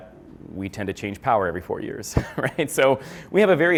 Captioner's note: chuckles